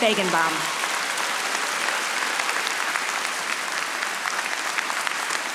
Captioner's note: audience applauding